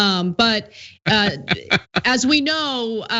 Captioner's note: laugh